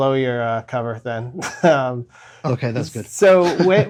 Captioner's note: laughter